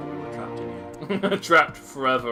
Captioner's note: laughs